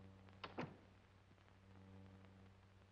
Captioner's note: door closes